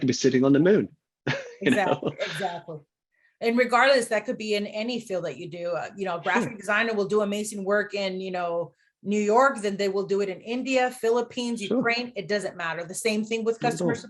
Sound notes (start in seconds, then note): 6.0 chuckles